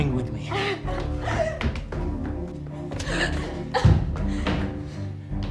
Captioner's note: Deborah whimpering